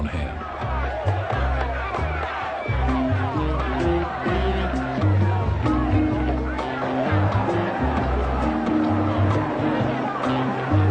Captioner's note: angry crowd noise